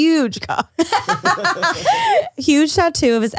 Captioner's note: all laugh